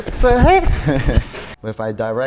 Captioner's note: screaming; Spice laughing; chuckling